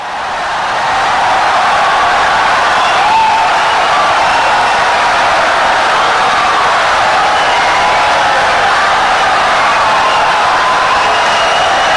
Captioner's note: wild applause and cheering for 17 seconds